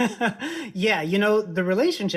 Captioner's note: laughs